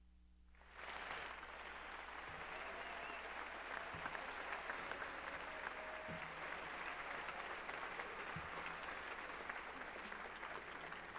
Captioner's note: applause